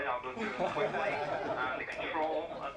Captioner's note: people laughing